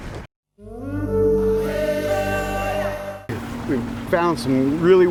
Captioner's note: blowing horn